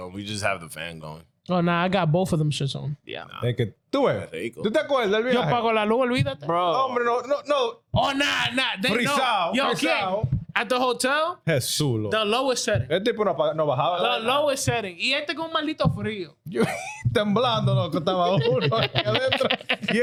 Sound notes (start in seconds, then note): 5.3 speaking In Foreign Language; 9.5 speaking In Foreign Language; 13.8 speaking In Foreign Language; 16.5 laughing; 19.1 speaking In Foreign Language